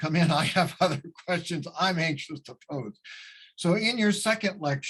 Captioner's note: laughs